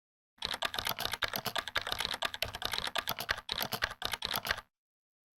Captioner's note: frantic typing